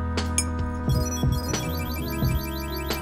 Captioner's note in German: Trällernder Klang